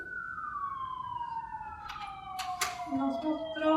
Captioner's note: siren whirling; speaking in Spanish